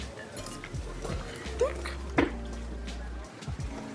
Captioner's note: tick